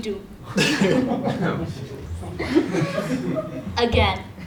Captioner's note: laugh